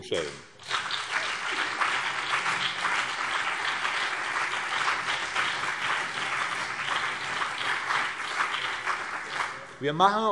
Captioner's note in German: Beifall BÜNDNIS 90/DIE GRÜNEN und CDU